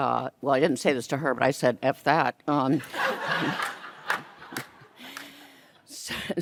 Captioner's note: audience laughs